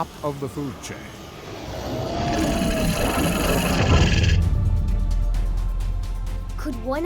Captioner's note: dinosaur roar